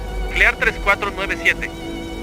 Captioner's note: speaking Spanish